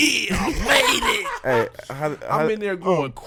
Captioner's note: laughing